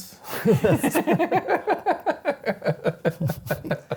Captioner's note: both laughing